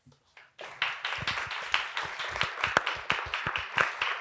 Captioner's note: audience applauding